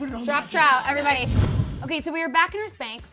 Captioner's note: air whooshing